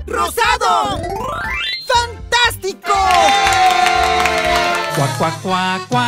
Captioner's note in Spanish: Aplausos y festejos